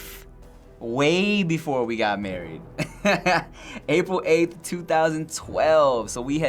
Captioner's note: laughs